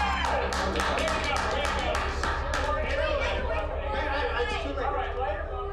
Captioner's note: indistinct chatter